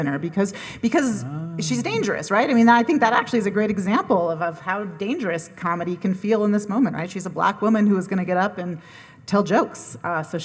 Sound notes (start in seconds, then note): none